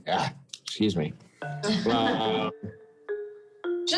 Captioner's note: chuckles